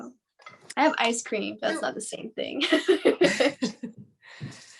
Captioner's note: laughs